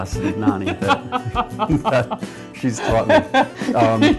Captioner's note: laughter